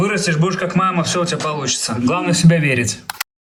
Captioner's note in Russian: закадровый голос; закадровый голос